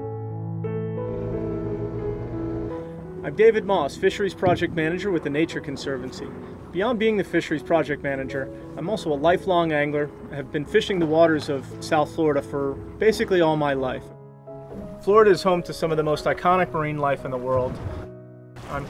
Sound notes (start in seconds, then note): 1.7 boat engine roaring